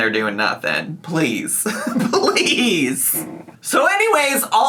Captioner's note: laughing